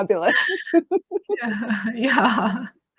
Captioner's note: both laughing